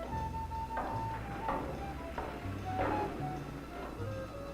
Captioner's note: jazzy dramatic music; footsteps approaching